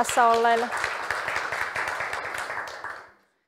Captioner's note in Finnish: aplodit yleisöstä